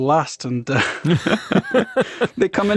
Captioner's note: both speakers lauging